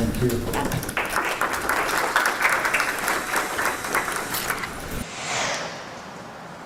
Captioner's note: applause